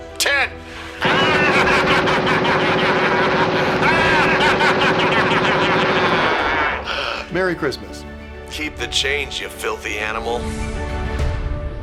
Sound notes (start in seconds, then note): 1.0 machine gun fire over maniacal laugh